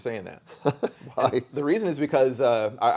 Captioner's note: chuckles